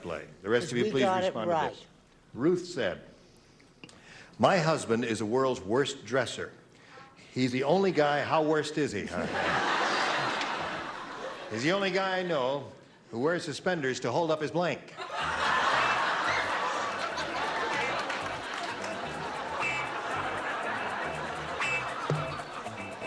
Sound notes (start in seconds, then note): 9.0 laughter; 14.9 laughter